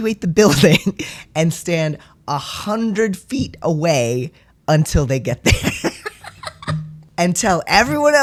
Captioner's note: laughter